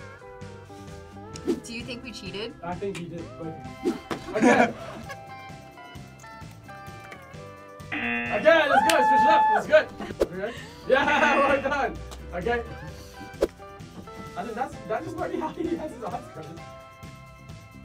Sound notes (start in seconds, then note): 3.8 laughs; 7.9 buzzer; 10.9 laughs